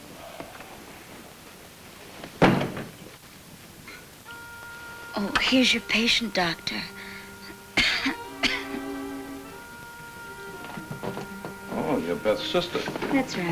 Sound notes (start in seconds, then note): 7.7 Ellen coughs